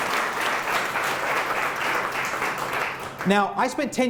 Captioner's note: applause